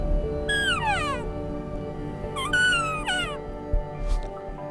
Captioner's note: elk call sounding